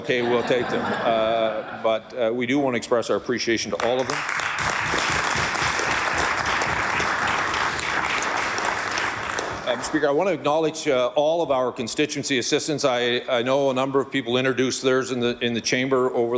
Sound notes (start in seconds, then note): 11.8 applause